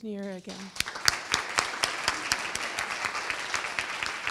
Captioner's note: audience applauds